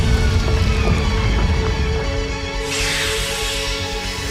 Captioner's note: loud swoosh and landing sounds